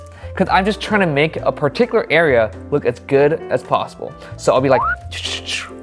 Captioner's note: sound effects